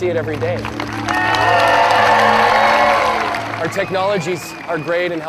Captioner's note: audience cheering and applauding